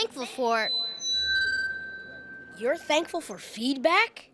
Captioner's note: feedback screeching